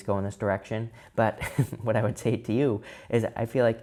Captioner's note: chuckles